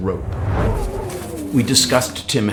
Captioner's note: wind blowing